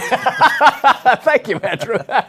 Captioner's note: laughs